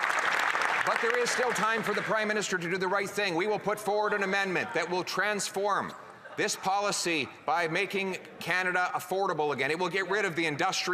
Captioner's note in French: applaudissements